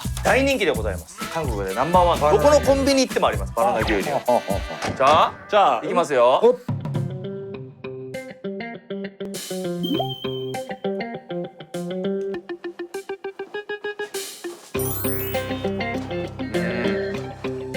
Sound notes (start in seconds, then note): 9.7 chomp